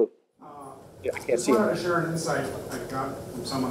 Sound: voiceover

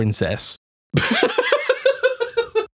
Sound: laughs at own joke

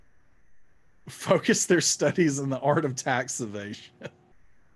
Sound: laughing

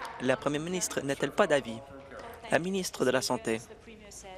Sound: applause

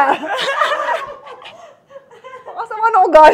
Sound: everybody laughs

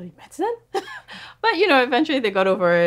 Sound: laughs

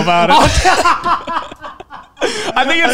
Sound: laugh

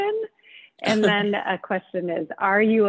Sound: laughing

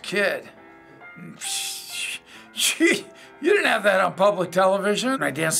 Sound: chuckling

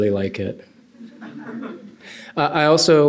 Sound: laughter

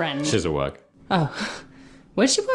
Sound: sigh

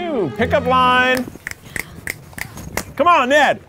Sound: snapping fingers

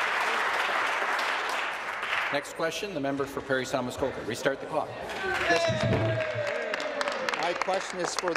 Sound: some Applause

